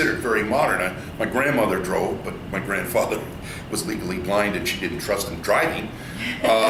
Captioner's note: laughs